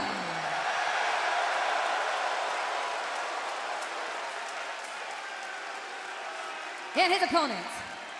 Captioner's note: cheers and applause